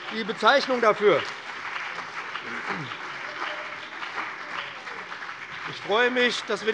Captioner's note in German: Beifall